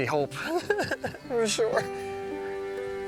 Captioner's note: laughing